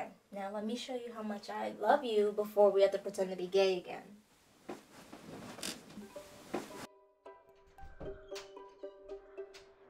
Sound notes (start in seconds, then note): 4.6 bed creaking; 6.0 quirky music